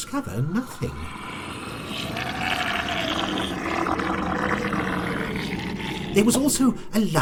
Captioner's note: monstrous evil gurgling